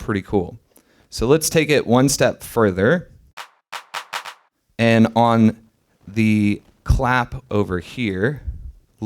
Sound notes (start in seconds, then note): 3.4 clap sound